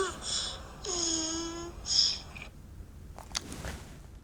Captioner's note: turtle noise